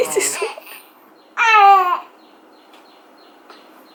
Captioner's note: continues fake crying and frowning